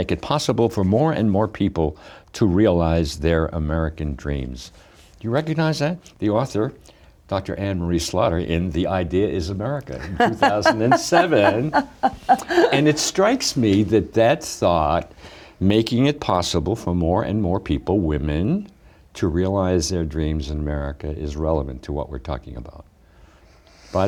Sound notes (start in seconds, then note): 9.9 laughs